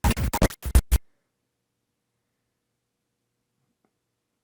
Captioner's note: static crackling